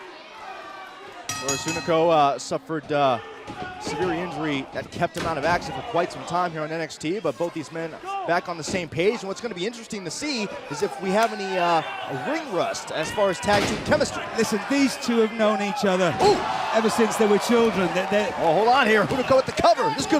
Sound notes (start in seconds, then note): 1.3 bell ringing